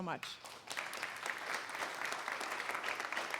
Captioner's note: applause